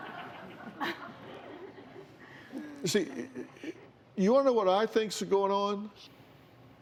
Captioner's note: light laughter